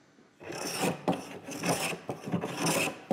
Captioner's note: scratching noise